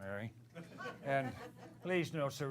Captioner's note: laughter